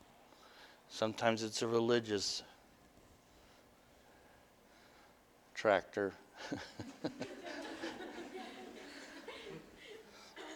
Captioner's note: audience: Laughter